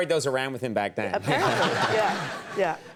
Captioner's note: audience laughs